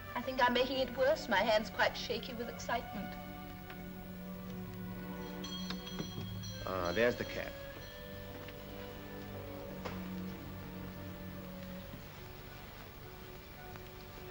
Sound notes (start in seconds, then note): 5.2 doorbell rings; 9.0 soft music